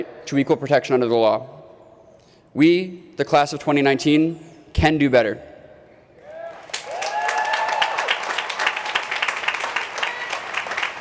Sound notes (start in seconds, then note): 6.5 applause